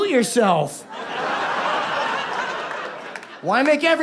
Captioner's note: audience laughs